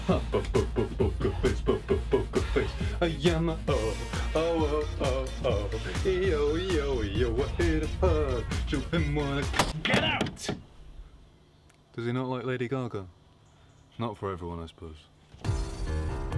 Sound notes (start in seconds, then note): 9.5 door Slamming